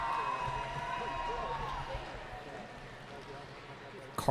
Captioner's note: cheering